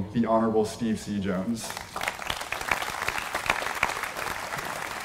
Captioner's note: applause